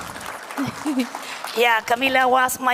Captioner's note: applause